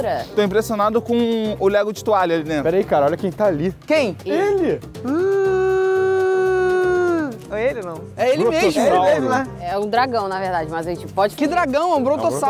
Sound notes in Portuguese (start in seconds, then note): 4.9 imitando um brontossauro